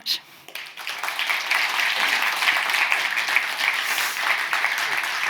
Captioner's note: participants clapping